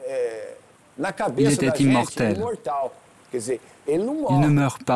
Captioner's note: Portuguese spoken audio